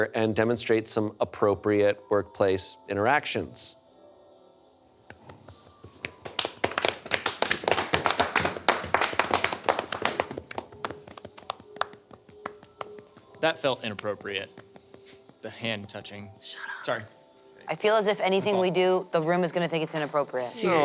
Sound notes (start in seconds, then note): 3.6 light music; 5.1 everyone clapping